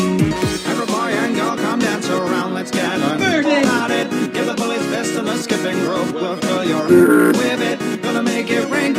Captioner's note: spongebob stink sound